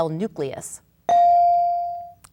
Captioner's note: bell dinging